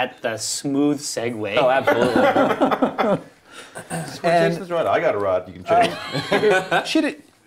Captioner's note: laughter